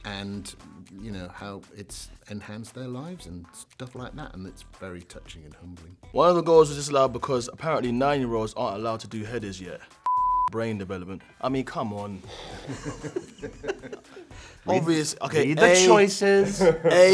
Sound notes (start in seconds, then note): 10.0 beep; 12.6 cast laughing